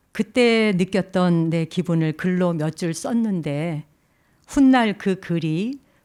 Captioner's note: speaking in Korean